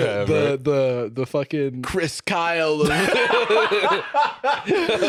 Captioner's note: laughing